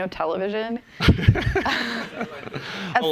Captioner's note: laughter